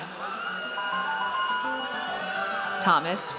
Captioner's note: audience cheers